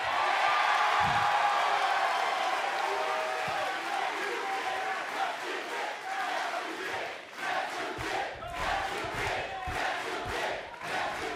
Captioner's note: crowd cheering